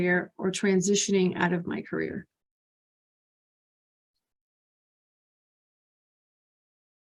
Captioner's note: pause